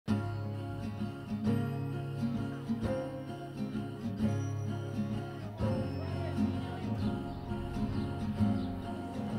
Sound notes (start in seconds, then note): 0.1 soft acoustic music; 5.9 students chatter